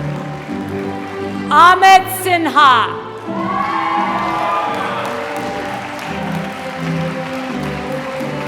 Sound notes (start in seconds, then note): 3.4 applause